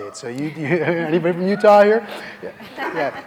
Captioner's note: laughing